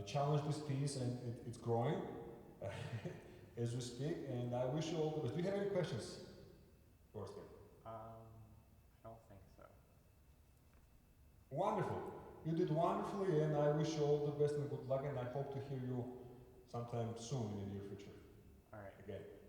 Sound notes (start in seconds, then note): 2.6 laughter